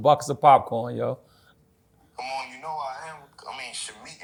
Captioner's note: on phone